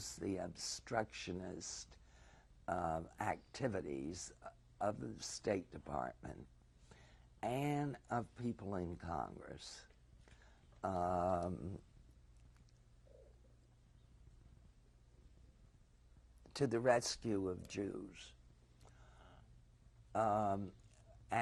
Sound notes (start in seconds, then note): 11.7 pauses for 7 seconds; 18.9 pauses for 3 seconds